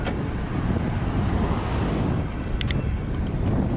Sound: gears clicking; wind gushing; gears clicking

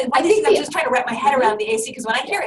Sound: voiceover

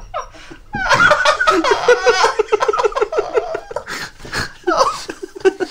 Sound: screaming Crying Laughter

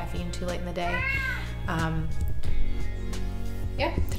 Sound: cat miaows

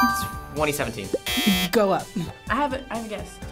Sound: buzzer blares; buzzer chimes

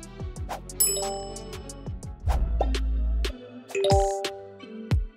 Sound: text chimes; text chimes

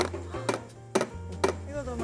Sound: tap tap

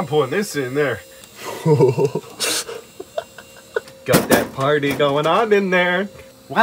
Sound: bang bang

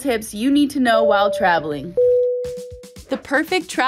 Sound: plane dinging

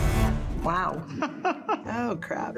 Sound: chuckling

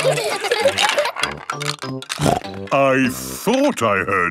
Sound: laughter; snorting

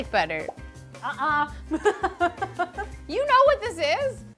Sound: laughs

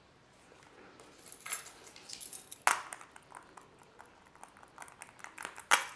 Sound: scratching

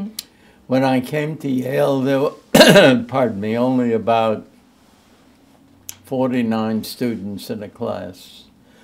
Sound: coughs

